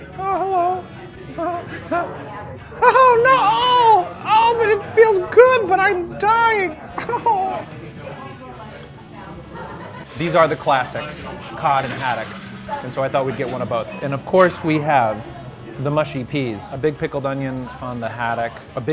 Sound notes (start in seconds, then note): 1.4 laughing; 3.8 groaning